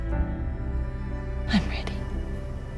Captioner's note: voiceover